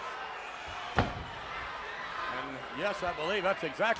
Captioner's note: foot thuds